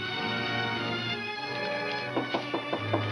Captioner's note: knocking on door